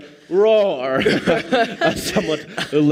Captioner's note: laughs more